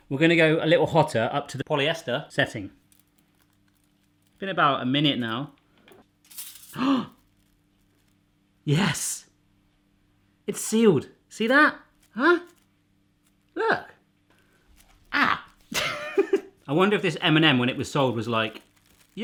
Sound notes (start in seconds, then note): 6.7 gasps; 15.7 laughs